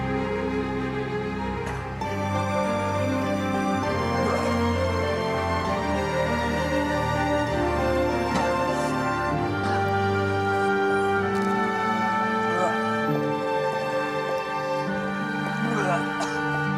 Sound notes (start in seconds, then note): 3.6 retching